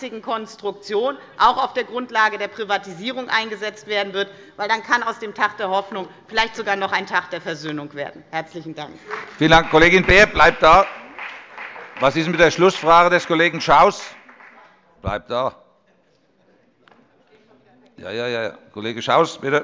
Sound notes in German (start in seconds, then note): 8.9 Beifall bei der FDP